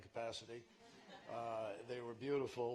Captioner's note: laughter